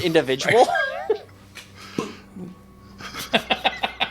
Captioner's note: all chuckling